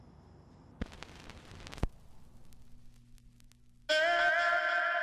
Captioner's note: record scratching; electro music